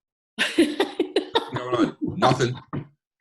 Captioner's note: laughs